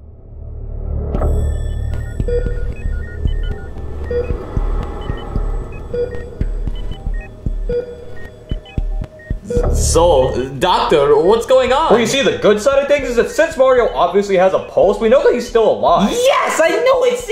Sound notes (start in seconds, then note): 0.1 intense music; 2.2 medical monitor beeping